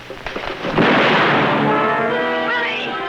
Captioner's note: gunshot